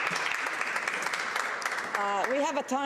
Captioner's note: applause